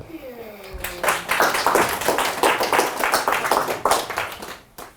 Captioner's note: audience applauding